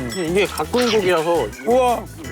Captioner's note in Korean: 뇸뇸 뇸뇸